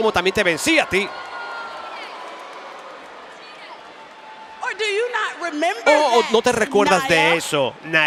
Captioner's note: applause; applause